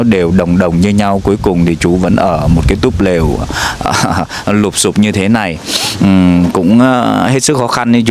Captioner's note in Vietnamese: khịt mũi